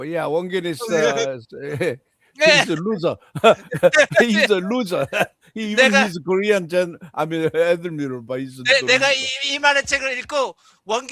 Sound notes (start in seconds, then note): 7.7 non-english speech